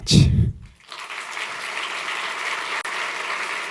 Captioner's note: applause